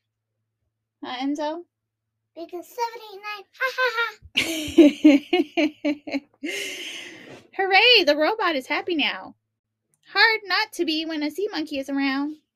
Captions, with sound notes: Huh Enzo? Because 7 8 9! Hahaha (laughs and giggles) Hooray! the robot is happy now. Hard not to be when the sea monkey is around.